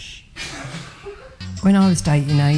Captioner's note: people laughing